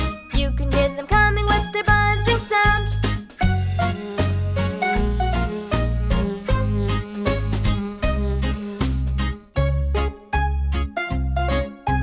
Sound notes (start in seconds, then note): 3.4 buzzing; 3.7 lively music